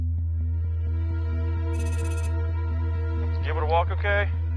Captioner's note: edgy music; text whirring